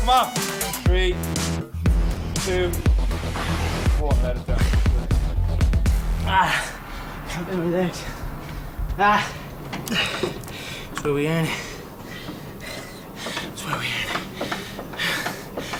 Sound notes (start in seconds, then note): 5.8 groaning; 11.3 panting